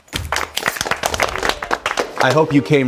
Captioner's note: applause